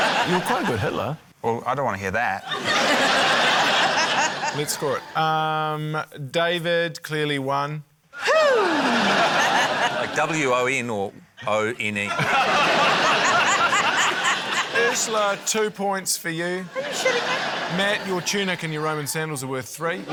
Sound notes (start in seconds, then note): 2.4 laughter; 8.2 exclaims; 12.0 laughter